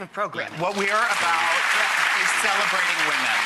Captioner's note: applause